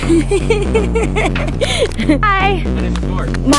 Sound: nervous laughter

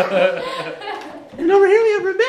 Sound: laughing

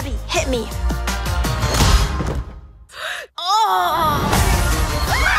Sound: groanes

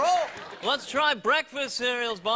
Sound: audience applauds; audience chuckles

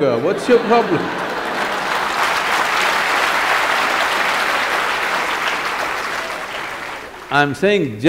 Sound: laughter/Applause

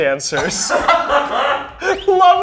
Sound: all laughing

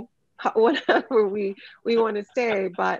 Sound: laughs

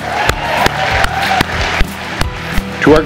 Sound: cheers and applause

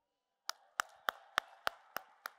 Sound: applause

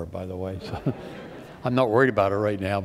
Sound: laughter

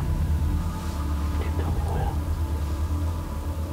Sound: whispering

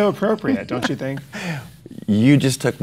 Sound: Chase laughs

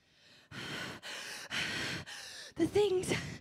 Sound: panting

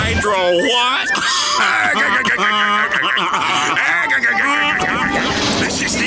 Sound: laughing

